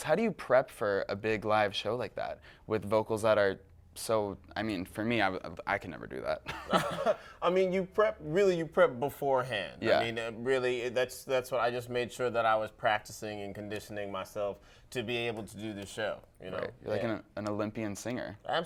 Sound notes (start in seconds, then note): 6.5 laughs